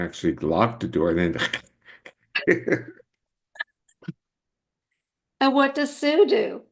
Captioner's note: scratches